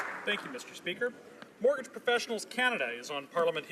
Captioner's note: applause